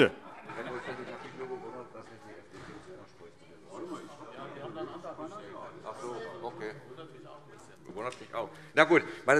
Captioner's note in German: Vereinzelte Heiterkeit